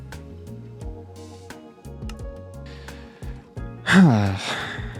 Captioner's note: sigh